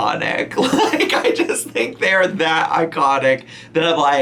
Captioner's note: laughing